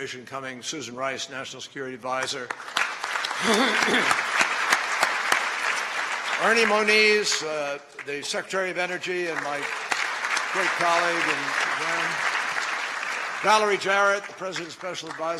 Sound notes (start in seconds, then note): 5.2 applause; 12.2 applause